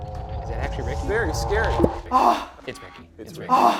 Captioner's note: gasps